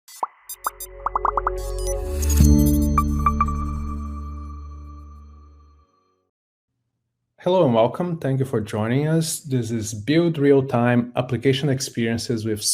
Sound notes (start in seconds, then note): 0.6 bright music; 1.0 bubbles popping